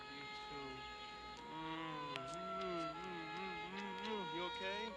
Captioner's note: kissing sounds